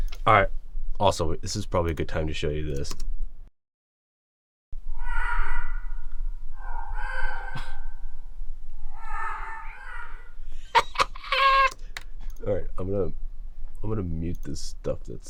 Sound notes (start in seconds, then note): 4.8 ethereal crows cawing; 10.5 laughing